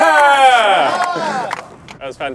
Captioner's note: clapping